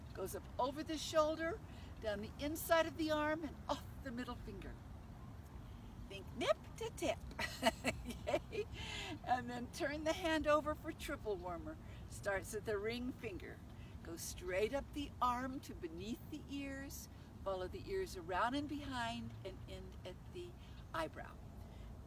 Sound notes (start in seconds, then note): 7.4 laughs